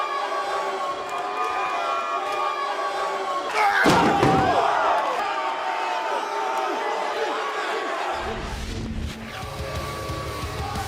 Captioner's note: cheers & boos